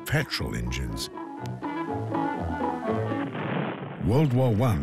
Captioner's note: cheerful music; gunshots